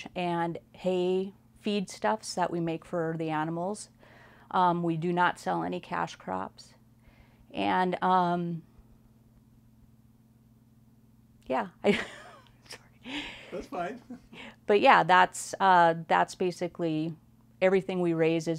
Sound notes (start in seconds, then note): 9.8 laughs